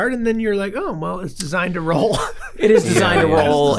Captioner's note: chuckles